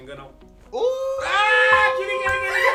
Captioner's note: screaming